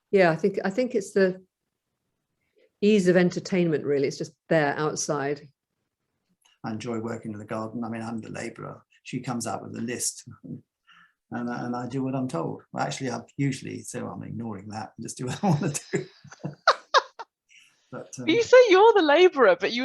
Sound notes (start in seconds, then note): 15.4 laughs